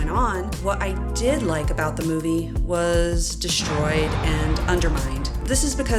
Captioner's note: explosion